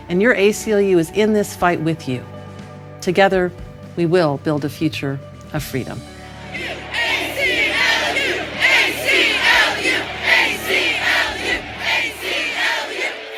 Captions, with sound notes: and your ACLU is in this fight with you. Together, we will build a future of freedom. - [Crowd] A-C-L-U! A-C-L-U! A-C-L-U! A-C-L-U!